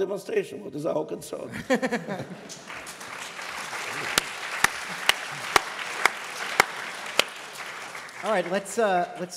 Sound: applause

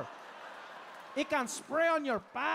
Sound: audience laughing

